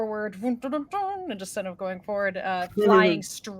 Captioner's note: imitates trumpets